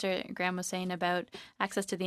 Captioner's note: speaking french